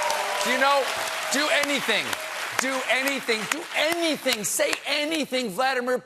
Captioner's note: cheers and applause